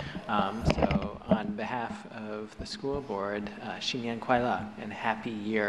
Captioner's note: speaking foreign language